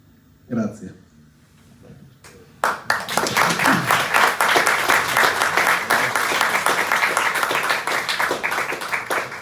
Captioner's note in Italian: Applauso